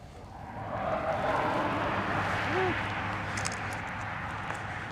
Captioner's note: plane flies overhead